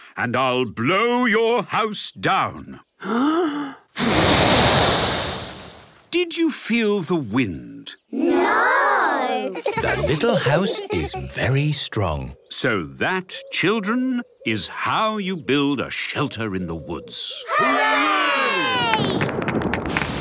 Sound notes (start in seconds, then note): 3.0 inhaling deeply; 3.9 blowing; 9.5 laughter; 19.2 thunder